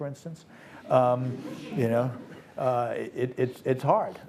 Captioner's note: audience laughs